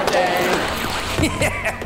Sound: chuckles

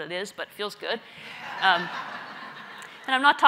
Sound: laugh

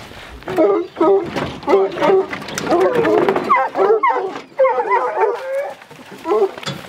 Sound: dogs whining and barking

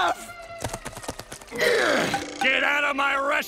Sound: grunting

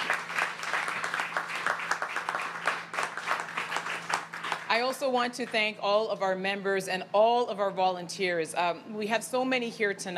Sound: applause

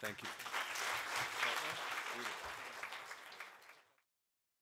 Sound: applause

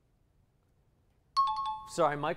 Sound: timer bell

